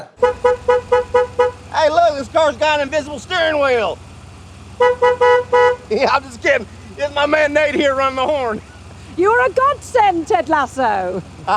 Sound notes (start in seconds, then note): 0.3 car honking; 4.8 car honking; 10.9 chuckles